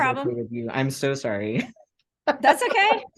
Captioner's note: laughter